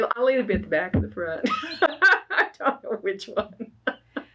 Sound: laughs

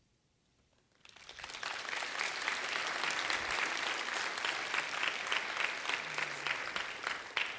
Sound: applause

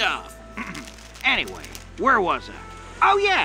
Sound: clears throat

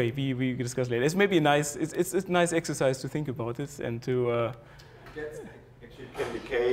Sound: laugh

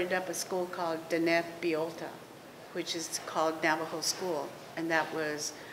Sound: non-english speech

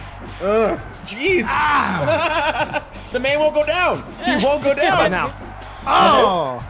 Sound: laugh

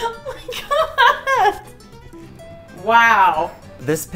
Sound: laughing

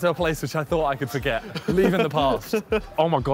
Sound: laughing

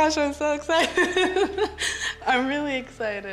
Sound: laughs

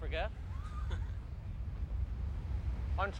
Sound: Jack chuckles

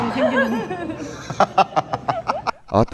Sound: laughs

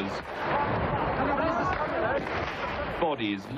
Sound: explosions

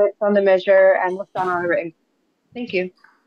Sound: voice cuts out

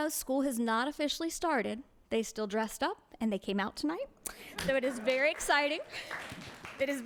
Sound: applause

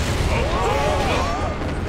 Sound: screaming

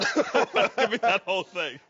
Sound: laughs

